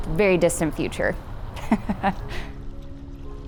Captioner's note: chuckles